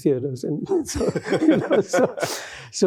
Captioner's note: laughter